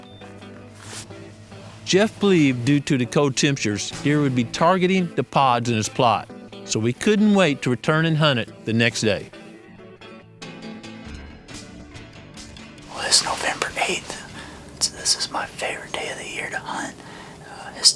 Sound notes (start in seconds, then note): 12.6 whispering